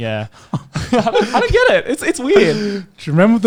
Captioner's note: laughing